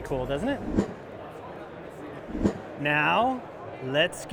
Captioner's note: air whooshing